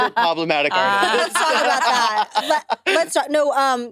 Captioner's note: laughs